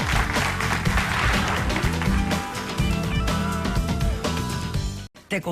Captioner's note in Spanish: aplausos